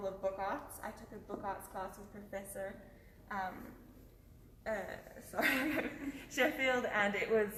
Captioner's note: laughs